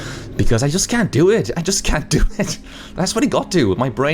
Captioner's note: laughs